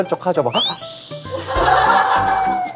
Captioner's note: gasp!